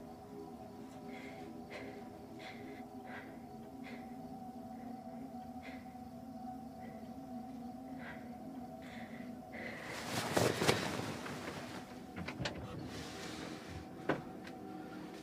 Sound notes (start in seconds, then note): 1.2 breathes heavily